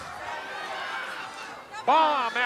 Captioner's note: audience chattering